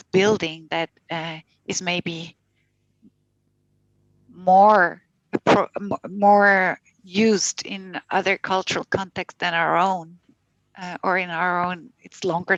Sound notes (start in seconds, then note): 5.7 non-english speech